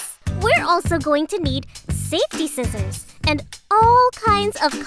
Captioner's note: none